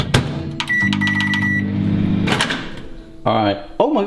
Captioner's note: microwave beeps and whirs